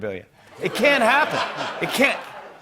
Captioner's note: laughter